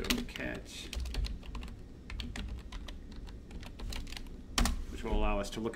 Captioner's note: keyboard typing